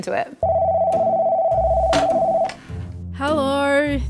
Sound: phone rings

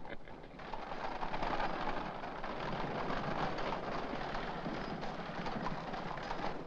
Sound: both laugh; carriage rattling & hooves trotting

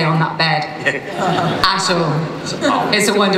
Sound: laughter

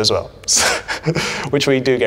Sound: Alex laughing

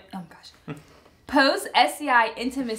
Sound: laughs

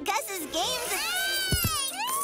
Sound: squealing

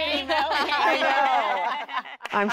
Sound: laughs

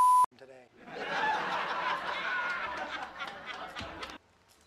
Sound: laugh track

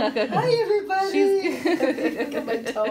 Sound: laughs

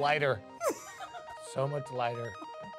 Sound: laughing; upbeat music

